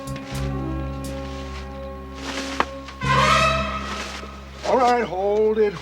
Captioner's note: sputters